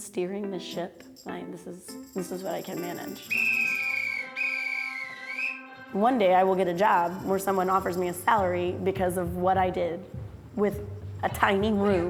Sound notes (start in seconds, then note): 3.2 whistle blows